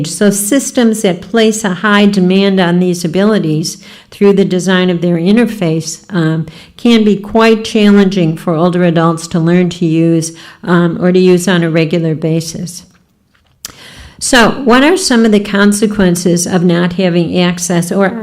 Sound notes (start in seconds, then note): none